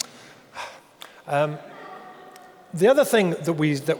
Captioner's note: sighs